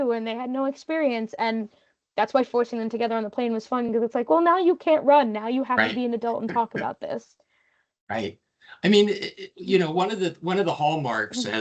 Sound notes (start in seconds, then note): 6.3 laughing